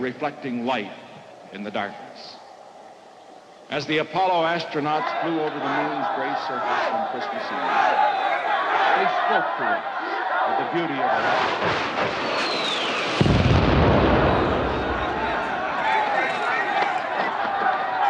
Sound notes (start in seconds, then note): 7.2 protesters' chants grow louder; 11.2 rockets firing, exploding; 14.1 protesters clamoring